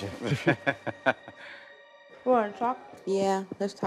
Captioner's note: man and chuckling